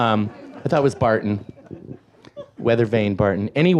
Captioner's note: audience laughs